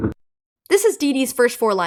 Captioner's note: reversed